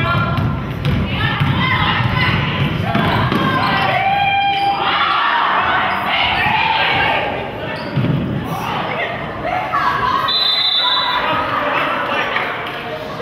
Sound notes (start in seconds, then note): 4.6 crowd; 10.2 whistle blows